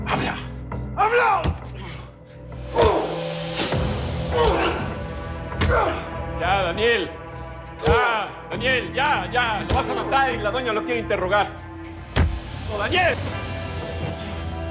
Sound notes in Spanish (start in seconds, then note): 0.8 Gemidos; 1.4 Golpes